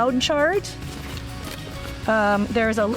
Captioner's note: bag shuffling